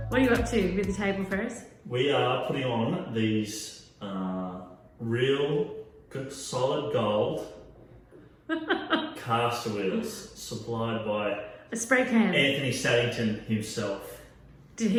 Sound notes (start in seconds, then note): 8.4 laughs